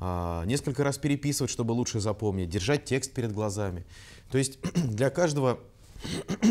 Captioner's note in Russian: прочищает горло